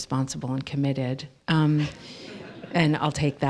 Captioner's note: laughter